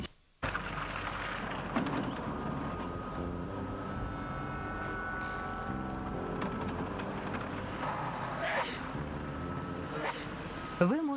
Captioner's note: sneeze